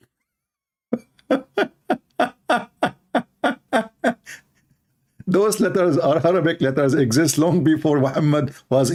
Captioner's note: Ketawa